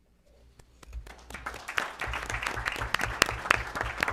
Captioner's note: applause